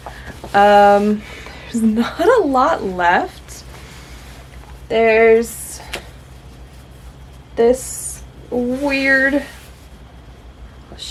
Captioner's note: laughs